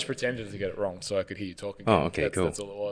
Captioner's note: speaks faintly